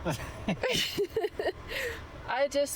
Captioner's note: laughter